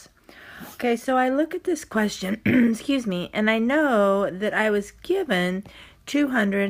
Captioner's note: clears throat